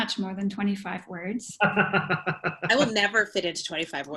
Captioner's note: laughter